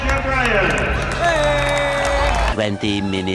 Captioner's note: cheers